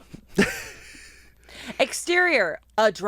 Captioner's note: laughs